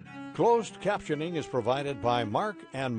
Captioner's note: voiceover